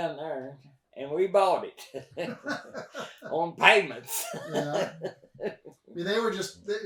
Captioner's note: both laugh